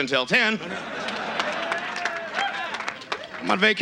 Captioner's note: audience cheers